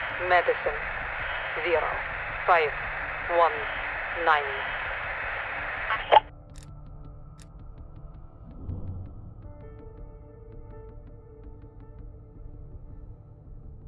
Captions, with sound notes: - Medicine, zero, five, one, nine. (static) (somber music)